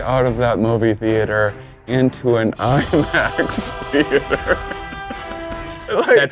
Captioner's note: laughs